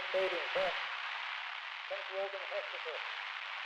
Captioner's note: radio static buzzing